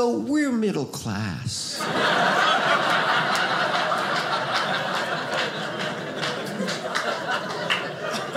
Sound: audience laughing

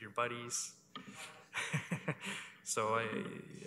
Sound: chuckles

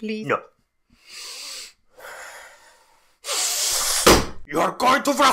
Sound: breaths

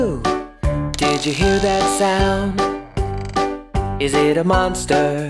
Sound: creaking

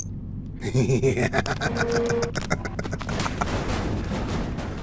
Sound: devil laugh

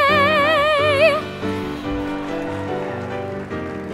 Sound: applause

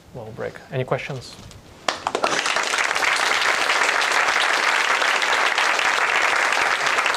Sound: applause

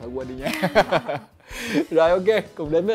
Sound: laugh

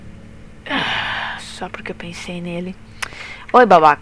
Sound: sigh

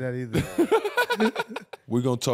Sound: laughing

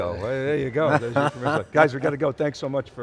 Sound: laughing

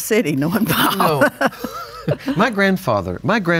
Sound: laugh; laughs

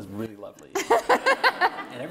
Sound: laughing

